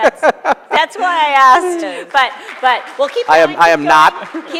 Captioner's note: laughter; applause